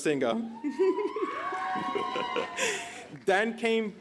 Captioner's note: cheers and applause